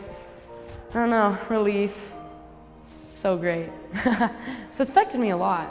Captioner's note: laughs